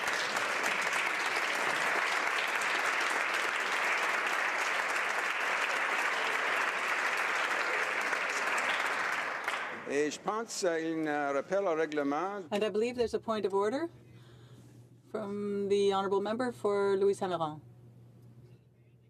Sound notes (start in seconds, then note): 2.7 applause